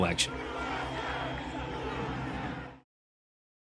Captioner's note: chanting